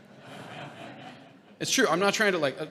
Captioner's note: audience laughing